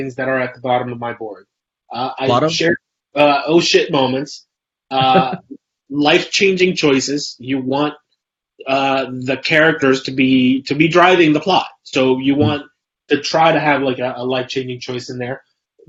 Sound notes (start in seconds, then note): 4.9 laughs